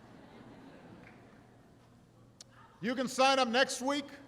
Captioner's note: laughter